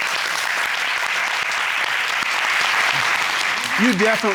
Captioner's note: courtroom applauding